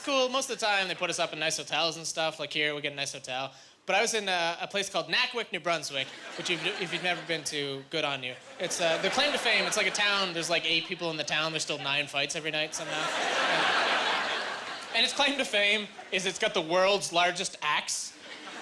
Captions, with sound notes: Most of the time they put us up in nice hotels and stuff. Like here, we get a nice hotel. But I was in a place called Nackawic, New Brunswick, which if you've never been to, good on you. Their claim to fame, it's like a town, there's like eight people in the town, there's still nine fights every night somehow. (Laughing) And its claim to fame is it's got the world's largest axe.